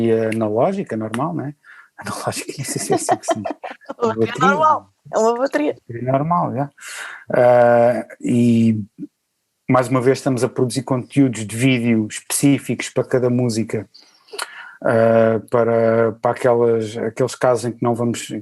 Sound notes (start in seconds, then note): 2.0 laughs